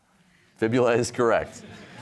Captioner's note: chuckling; audience laughing